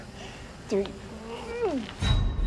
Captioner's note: groans